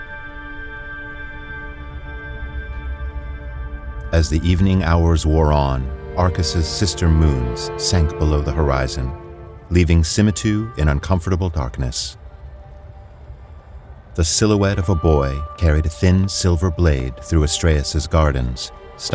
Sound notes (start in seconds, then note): 4.1 mysterious music washes over the scene; 12.2 water trickling gently and subtle mechanisms